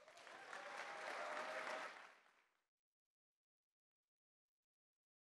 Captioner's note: applause